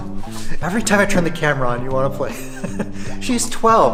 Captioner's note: laughs